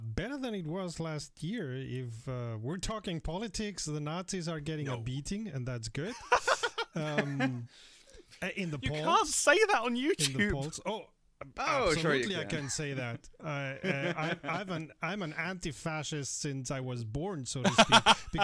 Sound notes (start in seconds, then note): 6.1 laughter